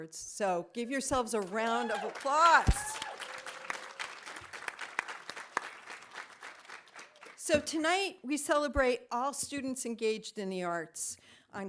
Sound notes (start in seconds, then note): 3.4 audience applauding